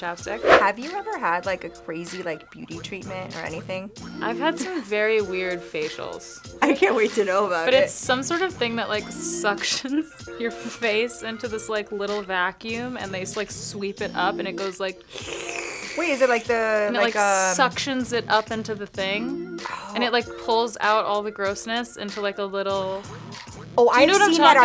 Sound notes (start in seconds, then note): 15.1 sluuuurp